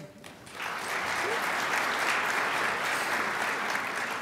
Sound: crowd applauds

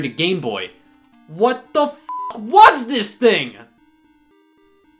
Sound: beep

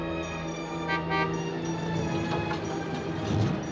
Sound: horn Honks

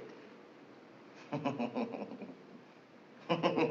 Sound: chuckling

